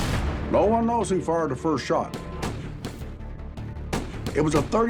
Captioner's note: gunshots